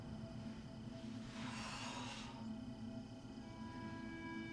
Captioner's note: exhales sharply